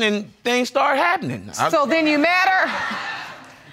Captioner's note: audience laughs